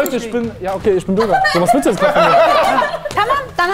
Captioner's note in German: Lachen